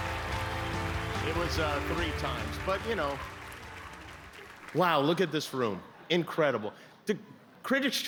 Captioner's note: cheers and applause